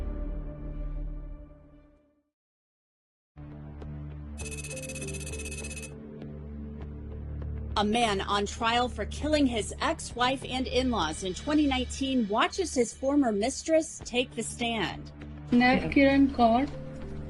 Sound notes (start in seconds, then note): 0.1 dramatic music fades; 4.4 rapid electronic beeps; 4.9 gentle music; 15.3 foreign language spoken